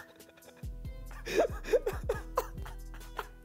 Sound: man laughs

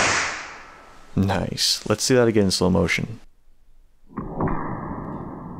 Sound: baaaang

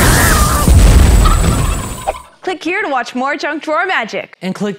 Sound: screaming; Thaddeus gobbles

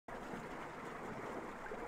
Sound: water noises

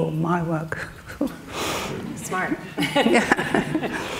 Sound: laughing

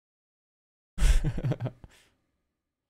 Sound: chuckles

